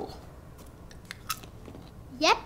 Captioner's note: crunches popcorn